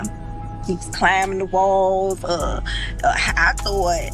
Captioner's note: ice cream truck